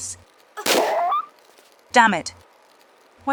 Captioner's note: bam